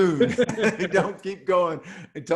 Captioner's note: both laugh